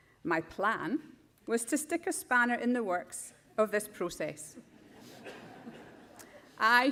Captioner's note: laughter